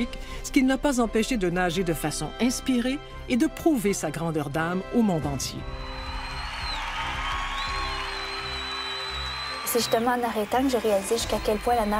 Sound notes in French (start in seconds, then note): 5.9 acclamations